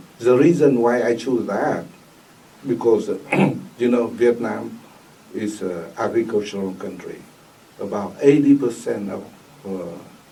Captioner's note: clears throat